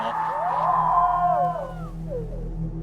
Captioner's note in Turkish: uzaktan bağırma